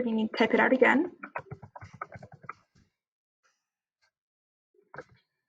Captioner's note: keyboard clanks